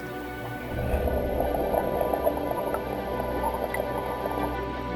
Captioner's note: water bubbles